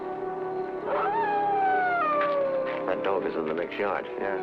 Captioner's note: dog howling